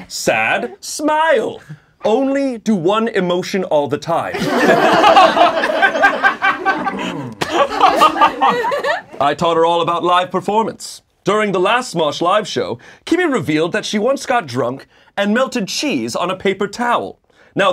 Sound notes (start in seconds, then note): 4.3 laughing